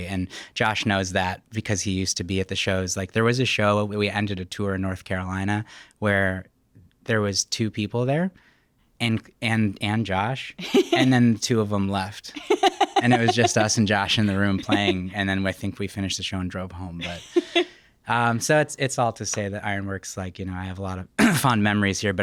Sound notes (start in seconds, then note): 12.3 laughing